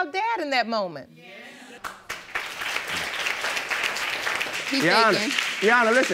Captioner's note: audience saying yes and applauding